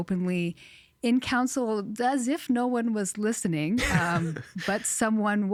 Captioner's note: chuckling